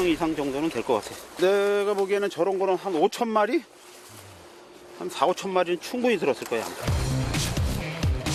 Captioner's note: bees